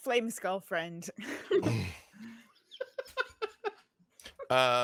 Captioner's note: group laughs